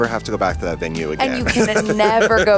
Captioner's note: laughs